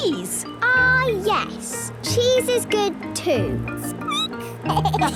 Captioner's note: squeaking; laughter